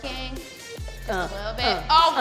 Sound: rhythmic grunting

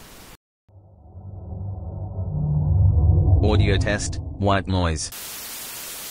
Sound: eerie ethereal transitional SFX

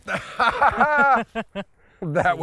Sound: laughs

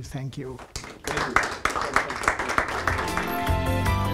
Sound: applause; upbeat music

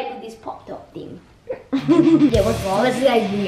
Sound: laughter

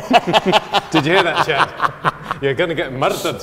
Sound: laughter

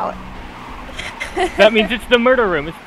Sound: tired laugh

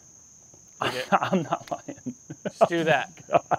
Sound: laughs

